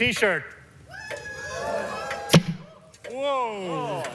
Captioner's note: crowd cheers